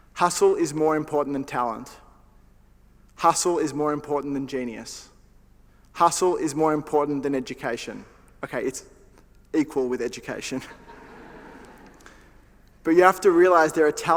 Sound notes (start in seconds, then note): 10.6 laughter